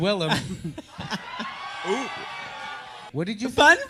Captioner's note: audible and spirited audience reaction